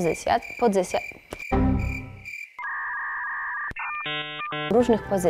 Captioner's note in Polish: odgłosy systemowe